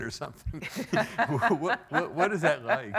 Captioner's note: laughing